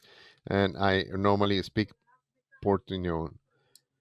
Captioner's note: speaks in foreign language